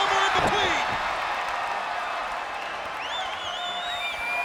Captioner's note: audience cheers